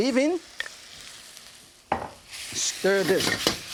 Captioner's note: wok sizzling